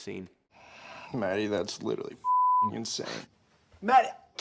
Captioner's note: beep